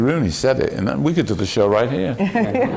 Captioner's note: laughter